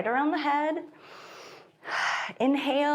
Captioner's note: inhales and exhales